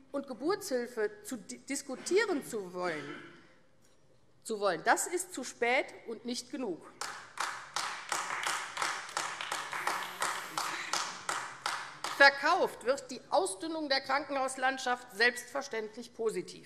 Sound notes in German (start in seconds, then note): 7.0 Beifall AfD